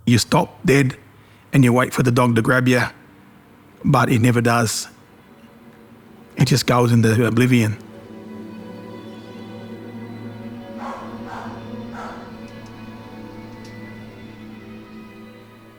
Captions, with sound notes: - You stop dead and you wait for the dog to grab you, but it never does. It just goes into oblivion. (tense music) (dog barking)